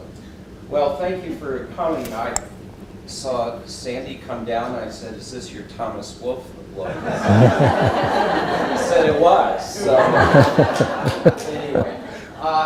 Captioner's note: audience laughing